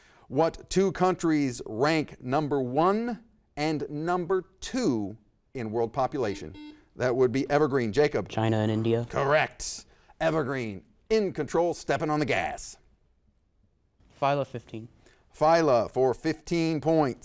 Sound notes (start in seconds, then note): 6.2 buzzer dings